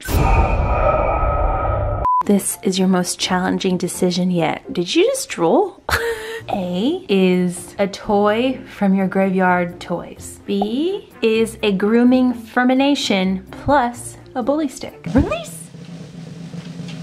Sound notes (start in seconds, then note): 0.1 creepy music; 5.9 laughs